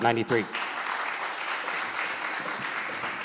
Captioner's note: applause